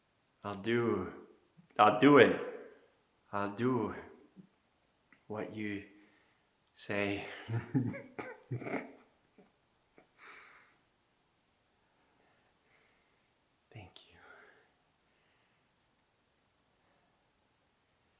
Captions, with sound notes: I'll do, I'll do it. I'll do what you say. (Jacob laughing) Thank you.